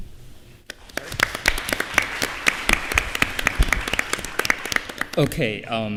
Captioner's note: applause